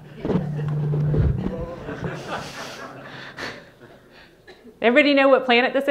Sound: audience laughing

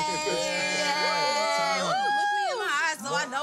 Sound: all cheering

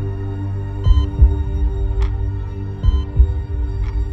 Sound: heartbeat

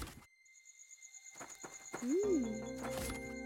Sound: insects chirping

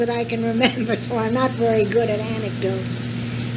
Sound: laughs

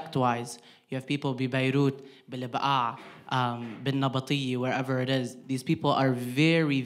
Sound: speaking in foreign language

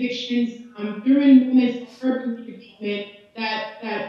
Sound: audio distorting

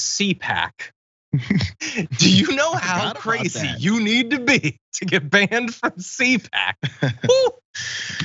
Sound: laugh; laugh

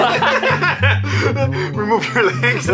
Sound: both laughing

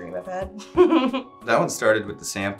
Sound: laughs

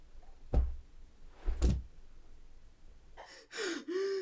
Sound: thud; heavy scared breathing

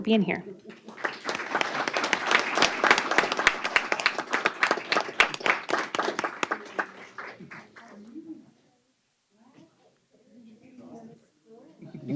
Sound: applause

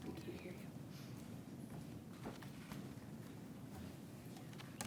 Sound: unmiced voice talking

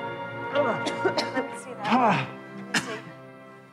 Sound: Philip grunting

